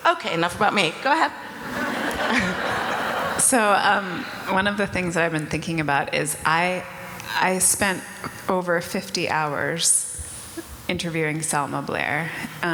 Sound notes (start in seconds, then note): 1.4 audience laughter